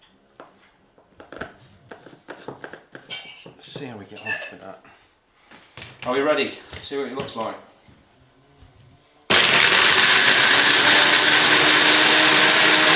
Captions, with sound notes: see how we get on with that. Are we ready? See what it looks like. (blender whirs)